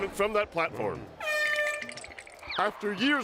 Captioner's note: air horn blows